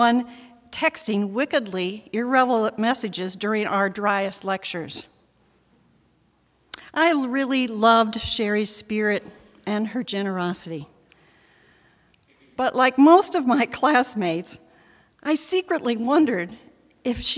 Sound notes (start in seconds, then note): none